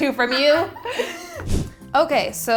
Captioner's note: laughing